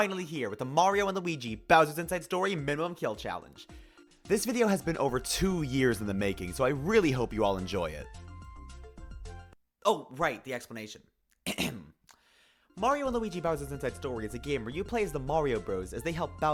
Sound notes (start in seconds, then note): 8.8 silence; 11.4 clears throat